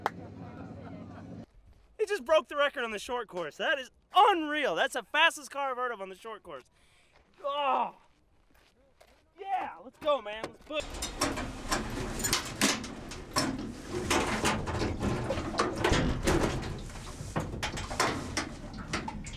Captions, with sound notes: - It just broke the record on the short course. That is unreal. That's the fastest car I've heard of on the short course. Oh. Yeah. Let's go man. (metal clangs)